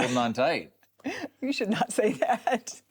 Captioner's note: chuckles